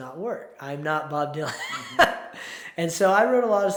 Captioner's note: laughs